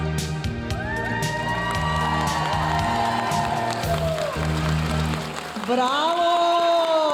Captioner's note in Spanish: aplausos y vítores de la audiencia